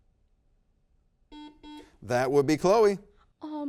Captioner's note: buzzer beeps